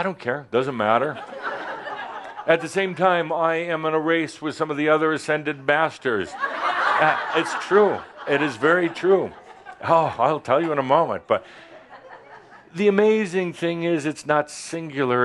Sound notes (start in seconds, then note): 1.8 some chuckles; 6.2 laughter